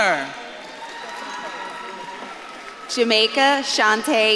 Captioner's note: audience claps and cheers